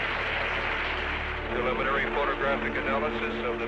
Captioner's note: people clapping